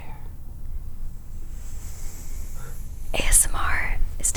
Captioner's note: gentle brushing of hair